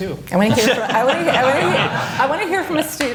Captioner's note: laughter